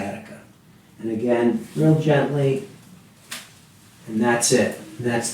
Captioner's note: back pops